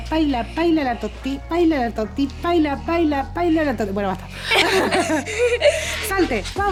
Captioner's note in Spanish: risas